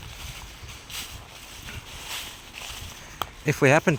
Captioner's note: rustling